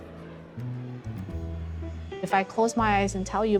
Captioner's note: engine roaring